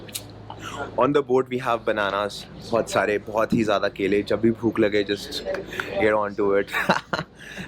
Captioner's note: laugh